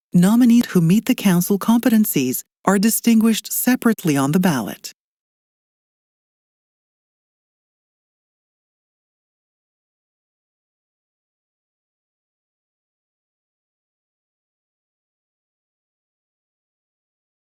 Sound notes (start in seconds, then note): 5.0 silence